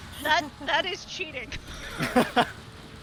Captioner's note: laughs